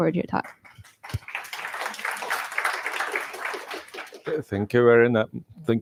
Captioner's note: applause